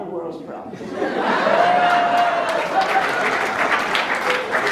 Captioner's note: laughs/Cheers; applauds